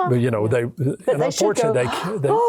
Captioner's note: gasps